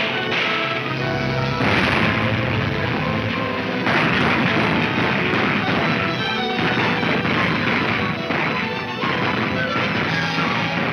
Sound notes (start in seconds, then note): 3.7 gunfire roaring